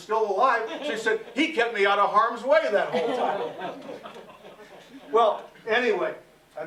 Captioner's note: laughter